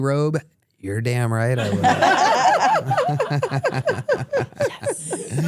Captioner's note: everyone laughs